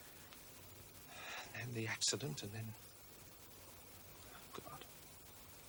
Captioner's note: sighs